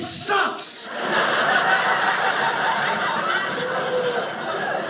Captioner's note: audience laughing